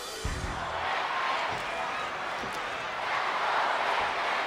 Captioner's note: crowd yelling